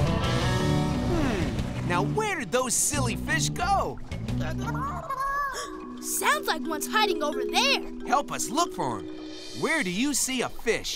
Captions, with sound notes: Hmm, now where did those silly fish go? [squeaking] Sounds like one's hiding over there. Help us look for him, where do you see a fish?